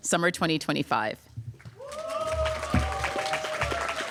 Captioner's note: applause